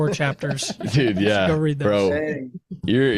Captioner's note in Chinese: 笑声